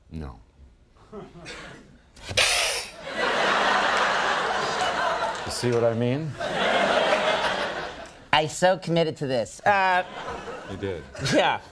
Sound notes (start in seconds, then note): 2.3 hissing; 3.0 laughter